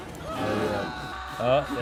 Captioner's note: bananas screaming